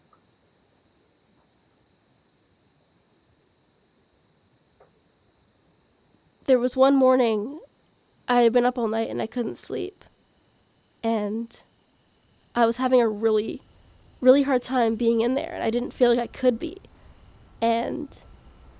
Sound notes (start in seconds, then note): 3.5 morning forest ambience fades in